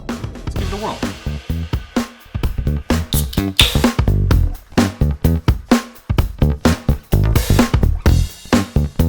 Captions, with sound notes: let's give it a whirl. (upbeat rock) (can opening)